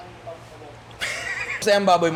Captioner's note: laughs